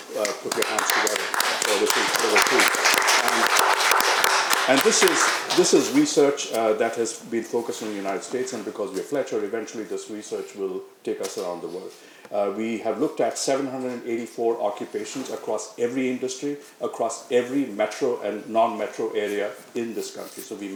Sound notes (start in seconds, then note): 1.7 audience applauding